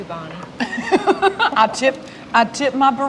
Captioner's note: laughs